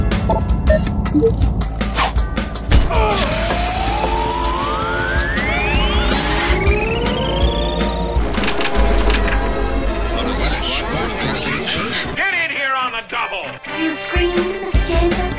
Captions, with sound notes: *BONK* *URGH* (Cartoony magic hovering noise) (Sephiroth flying away with Jetsons car sounds) What a spot for a vacation! Get in here on the double! You screamed, Mr. Jameson? You screamed, Mr. Jameson?